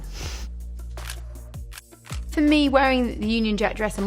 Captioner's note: camera clicking